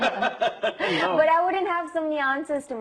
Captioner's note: both Laugh